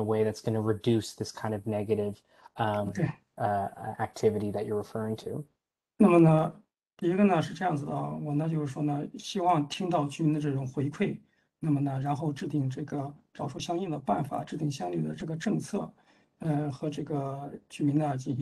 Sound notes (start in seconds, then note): 9.2 speaks in Mandarin